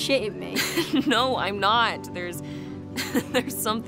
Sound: laughs

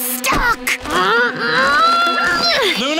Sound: grunting

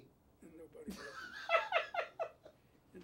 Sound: Bunny laughs

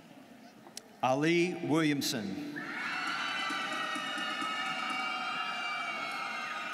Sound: students cheering

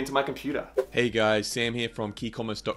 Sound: air whooshing

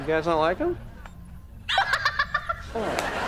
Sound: laughing

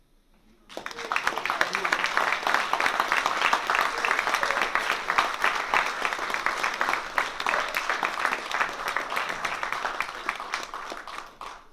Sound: applause

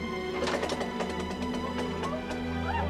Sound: engine faltering

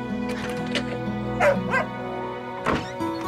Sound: dog barking

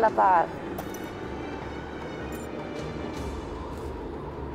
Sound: object rattling

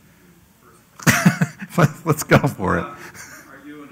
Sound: laugh

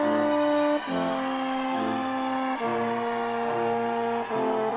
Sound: audience cheers

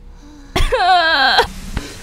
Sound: anguished sobbing round 2

